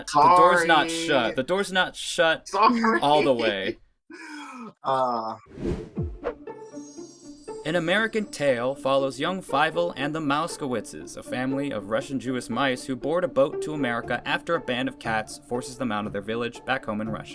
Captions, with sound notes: - Sorry! - The door's not shut. - The door's not shut all the way. - Sorry! [laughing] - Ah. [intriguing music]